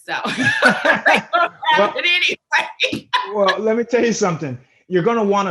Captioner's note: both laughing